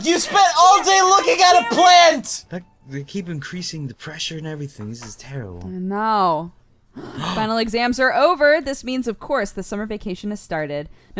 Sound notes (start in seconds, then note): 0.0 cry; 7.0 both gasp